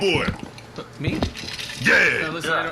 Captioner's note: slurping